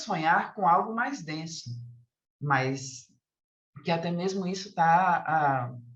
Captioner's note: continues speaking in Portuguese